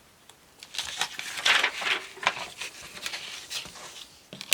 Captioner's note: paper crinkling